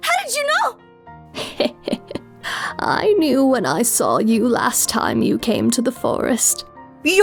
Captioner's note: laughing